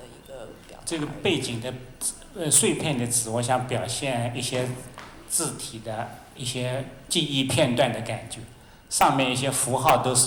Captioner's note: Mandarin